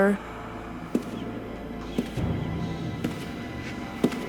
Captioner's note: footsteps